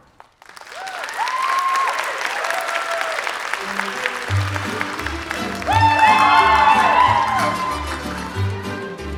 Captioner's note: applause